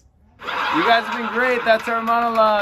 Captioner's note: laughter